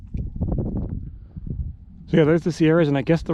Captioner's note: air whooshing